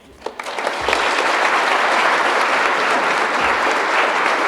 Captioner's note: audience applauding